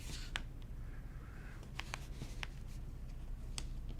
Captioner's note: paper rustling